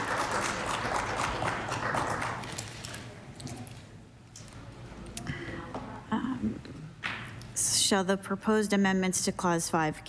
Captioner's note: applause